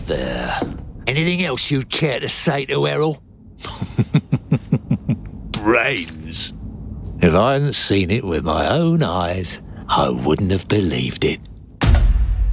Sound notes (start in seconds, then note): 3.6 chuckles sinisterly